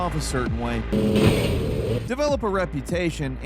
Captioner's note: car vrooming